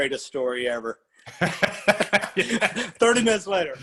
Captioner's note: laugh